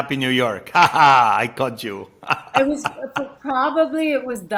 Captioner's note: chuckles